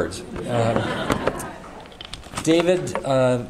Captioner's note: audience laughter